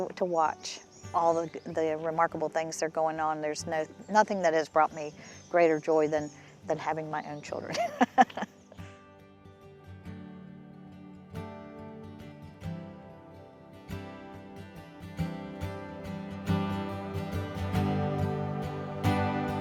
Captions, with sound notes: to watch all the remarkable things that are going on. There's nothing that has brought me greater joy than having my own children. (laughing) (calm music)